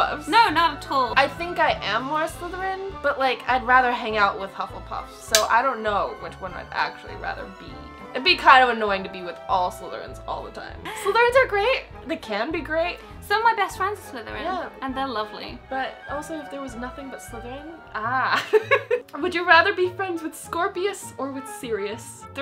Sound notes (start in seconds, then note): 18.3 laughing